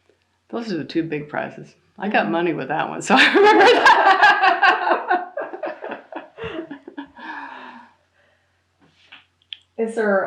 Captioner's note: laughter